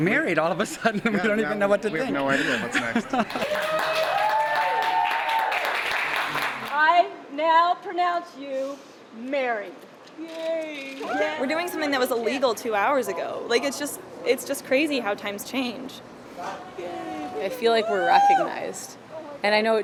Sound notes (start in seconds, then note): 6.1 applause